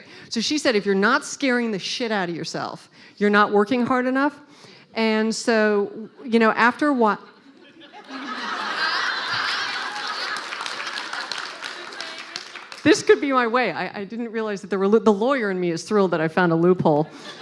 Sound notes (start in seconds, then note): 7.6 laughing